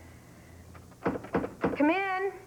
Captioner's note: knock on door